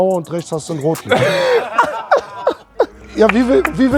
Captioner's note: laughter